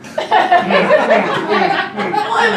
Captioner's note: audience laughing